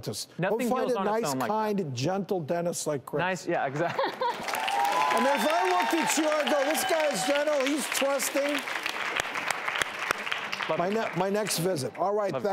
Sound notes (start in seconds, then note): 3.9 laughs; 5.0 audience cheering and clapping